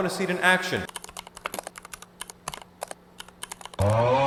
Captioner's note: delightful keyboard asmr